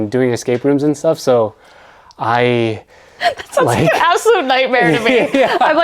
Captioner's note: laughs